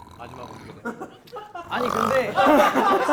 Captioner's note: copying his snore